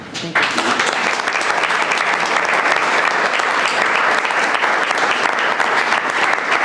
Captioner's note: audience claps